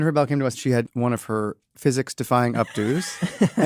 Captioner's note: laugh